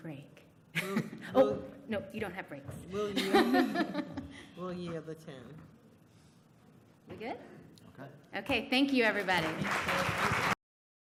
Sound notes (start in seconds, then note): 9.2 applause